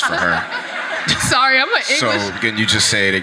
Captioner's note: audience laughs